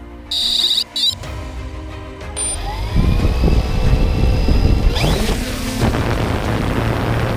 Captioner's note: sound of propellers spinning